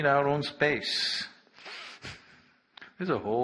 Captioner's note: laughs